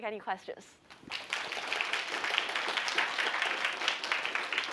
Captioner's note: applause